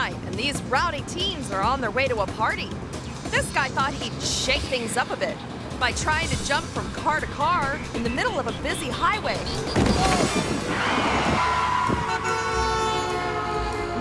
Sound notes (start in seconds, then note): 9.6 body thuds; 10.5 tires screeching; 11.2 car honks